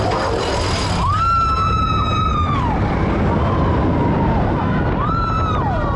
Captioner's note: wheels clacking; riders screaming